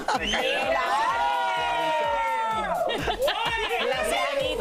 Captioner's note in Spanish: silbidos